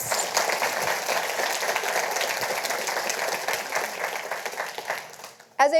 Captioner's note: audience applauding